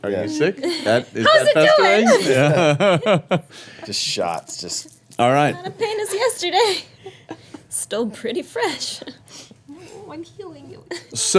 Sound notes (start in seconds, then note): 1.3 laughing